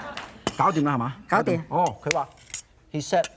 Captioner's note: foreign language